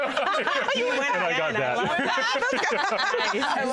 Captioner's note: laughter